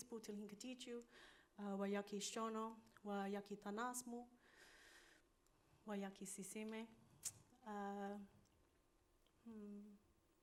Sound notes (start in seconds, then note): 3.4 continues speaking in foreign language